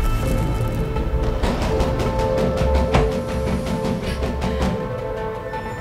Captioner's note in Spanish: Continúan los golpes en la puerta